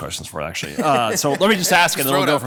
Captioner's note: attendees laughing